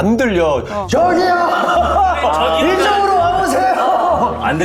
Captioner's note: shouting at the top of their lungs